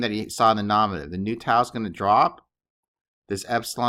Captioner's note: speaking greek